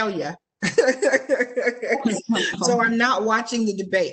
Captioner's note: laughing